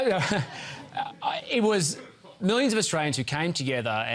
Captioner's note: laughs